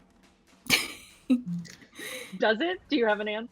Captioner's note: laughing